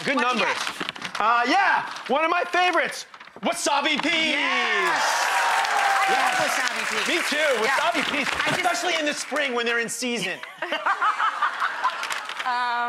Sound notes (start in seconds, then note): 4.2 audience cheers; 10.4 Rachael laughs